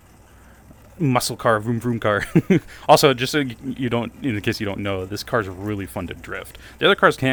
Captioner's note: laugh